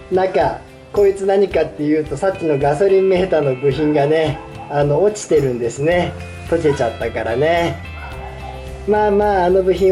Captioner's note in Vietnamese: cười